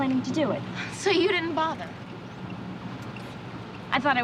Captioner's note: scoffs